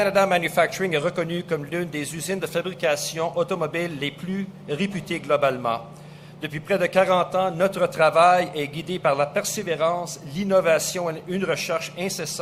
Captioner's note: speaks French